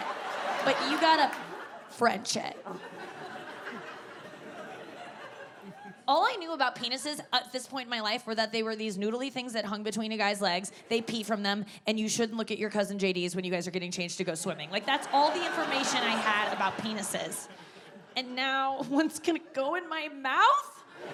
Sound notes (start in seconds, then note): 0.0 audience laughs; 14.7 audience laughing; 18.1 chuckles; 20.9 audience laughs